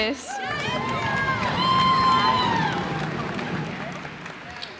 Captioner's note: cheers and applause